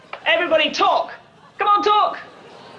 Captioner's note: group chatter